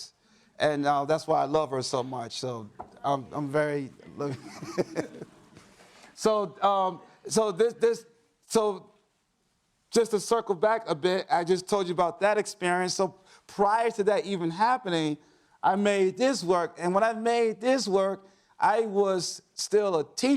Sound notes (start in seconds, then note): 4.1 laughs